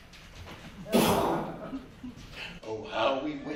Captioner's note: imitates hand grenade blast; audience gasps